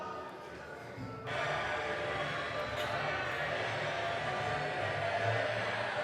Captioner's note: crowd talking and cheering in the background